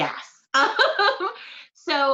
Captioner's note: laughs